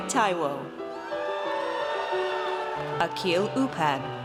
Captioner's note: audience cheers